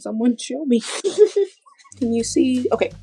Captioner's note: laughter